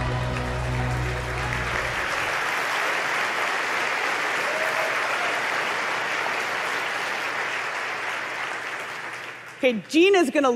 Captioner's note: applause